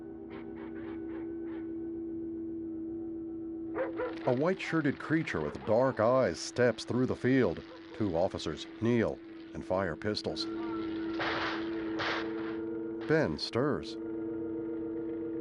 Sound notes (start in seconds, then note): 3.8 helicopter passing; 10.6 gunshots